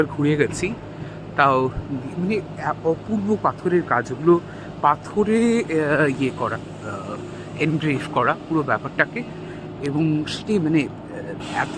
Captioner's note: blabbering in Bangla about how amazed I am